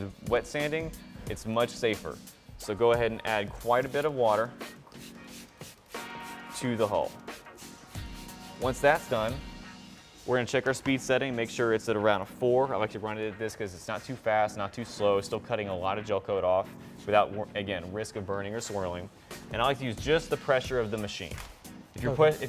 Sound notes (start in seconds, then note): 3.6 spraying